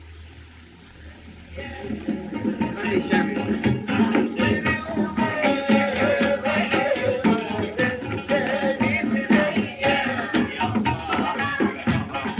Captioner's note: indian street chatter